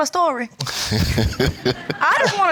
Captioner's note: laughs